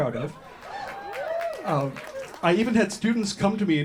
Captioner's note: whoops from audience